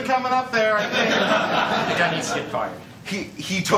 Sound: laughter

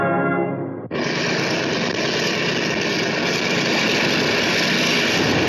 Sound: engine roar

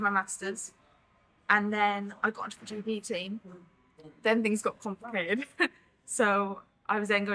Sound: laughs

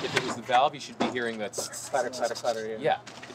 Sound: impression of engine noise

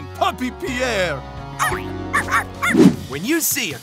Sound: barking

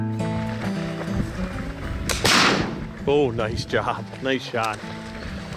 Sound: gunshot echoes

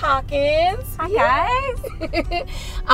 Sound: chuckling

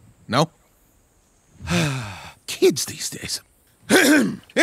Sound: sighs; clears throat

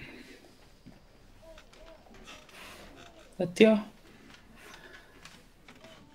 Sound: none

